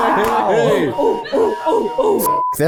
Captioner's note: whistle blows